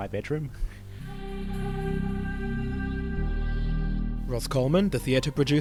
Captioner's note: voiceover